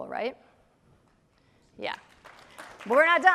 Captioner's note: applause